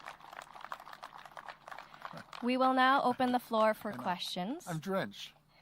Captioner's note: applause